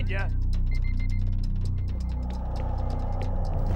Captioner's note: car beeping